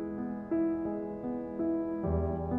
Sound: none

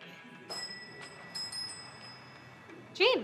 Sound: wind chime rings

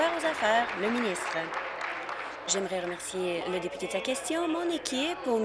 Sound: applause

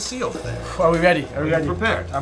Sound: sighs

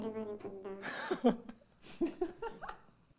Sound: laughing

